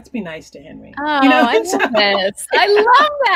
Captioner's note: laughing